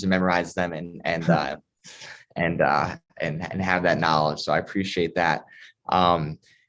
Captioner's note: laughter